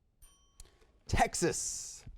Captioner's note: bell rings